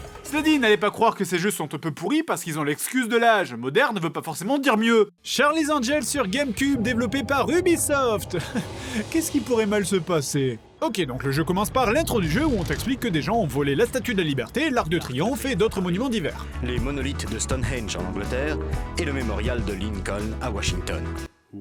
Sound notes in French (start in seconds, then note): 8.3 rire ironique